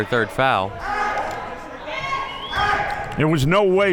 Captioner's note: man yelling